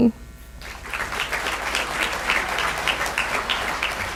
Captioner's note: applause